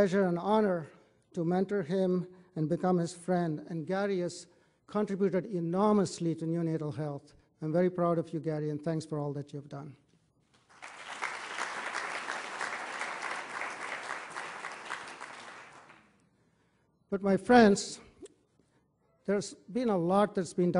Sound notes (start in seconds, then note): 10.5 applause